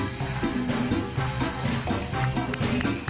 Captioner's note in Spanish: aplausos